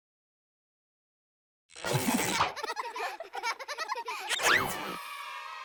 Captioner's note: children laughing